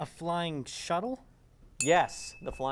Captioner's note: ding